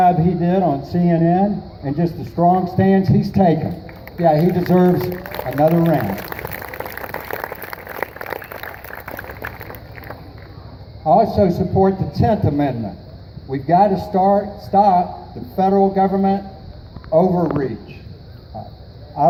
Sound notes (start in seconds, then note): 8.7 applause